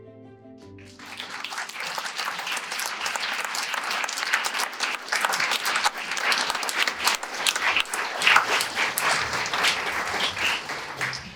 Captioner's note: audience applause